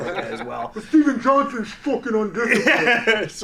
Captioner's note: imitates voice; laughing loudly